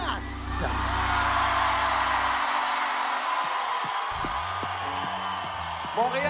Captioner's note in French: cris de la foule